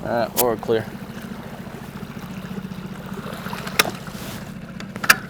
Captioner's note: boat engine revving